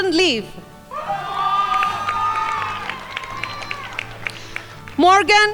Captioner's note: crowd applauding